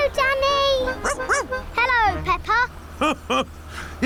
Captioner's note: barks; laughs